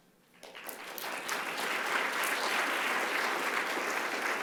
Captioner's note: audience applauding